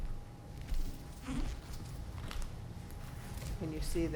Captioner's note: floor squeaking